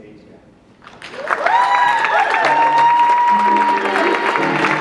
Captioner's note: audience clapping; jazz music